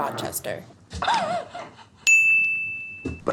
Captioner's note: giggle